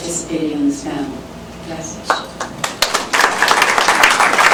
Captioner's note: applause